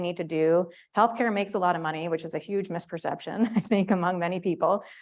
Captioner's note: laugh